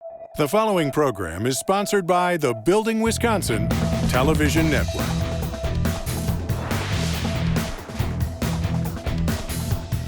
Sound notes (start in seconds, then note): 4.8 snappy rock music; 6.8 air whooshing